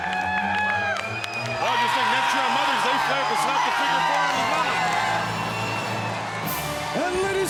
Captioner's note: audience cheers and music drowns out commentators